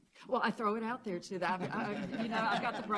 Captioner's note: laughter